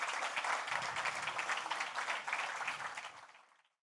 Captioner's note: applause